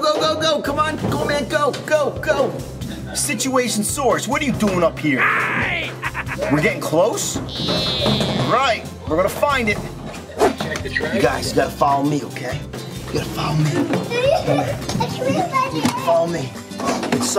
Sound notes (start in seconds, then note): 5.2 dinosaur laughs